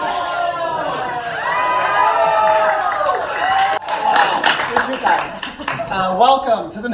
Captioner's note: clamorous cheering for Carter's drip